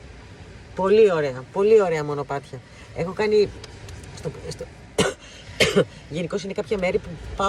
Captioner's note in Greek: βήχας